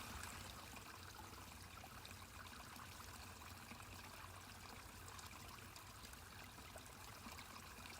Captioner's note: water quiets to a trickle